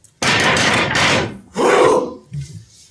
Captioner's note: ALL pound sticks and grunt